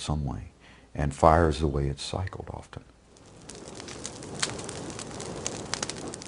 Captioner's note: fire noises